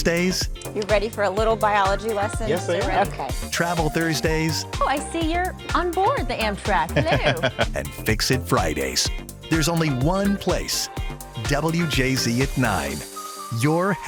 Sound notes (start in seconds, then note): 6.9 laughs